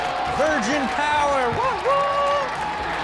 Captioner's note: audience laughing and clapping; cheering